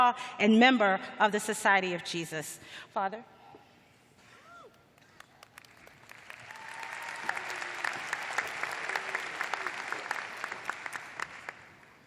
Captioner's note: applause